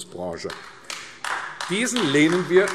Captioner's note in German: Beifall AfD